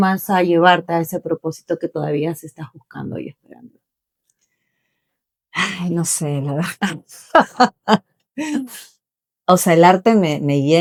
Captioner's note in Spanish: risas